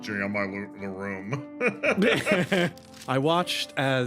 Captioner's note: laughs